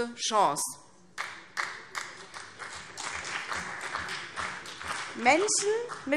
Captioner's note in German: Beifall CDU und BÜNDNIS 90/DIE GRÜNEN